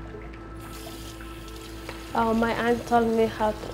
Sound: water running

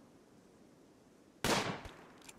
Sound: gunshot

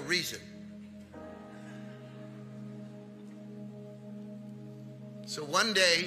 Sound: congregation laughing

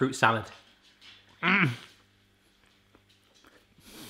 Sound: grunting

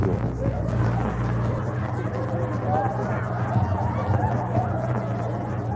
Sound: laughing

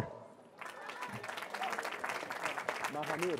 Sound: cheering

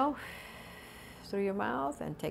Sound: deep breath

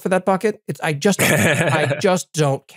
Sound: laugh

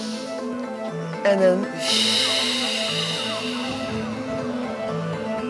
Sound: breathing deeply

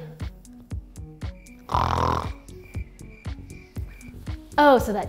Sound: crickets chirping; snoring

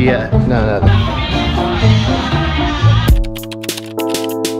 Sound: upbeat music; people chattering; tranquil music

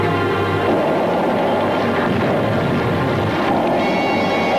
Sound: explosion booming

